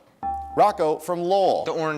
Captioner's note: dinging